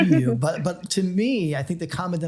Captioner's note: laughs